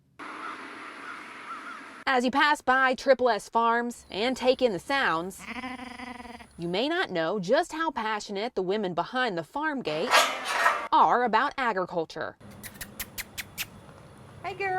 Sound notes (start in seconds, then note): 5.2 lamb Bahhing; 10.0 gate closing